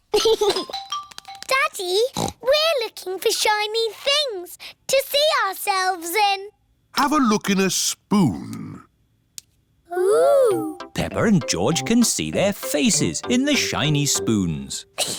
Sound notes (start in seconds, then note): 0.1 giggles; 2.1 snorts